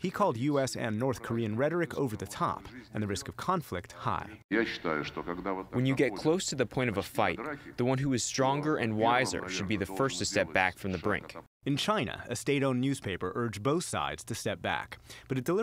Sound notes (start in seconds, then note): 5.3 through translator